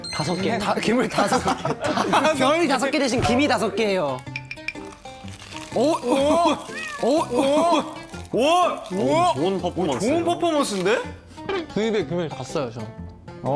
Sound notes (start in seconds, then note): 4.7 Munch